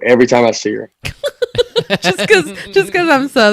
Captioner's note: laughs loudly